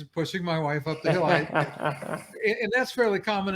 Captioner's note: laughter